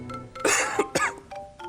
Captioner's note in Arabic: سعال